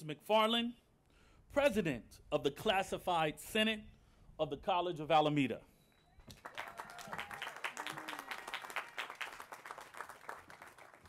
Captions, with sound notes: McFarland, president of the Classified Senate of the College of Alameda. [APPLAUSE]